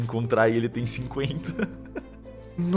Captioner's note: laughs